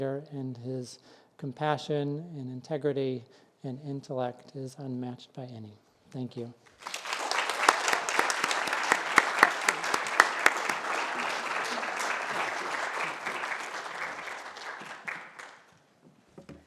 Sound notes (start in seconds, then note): 6.6 applause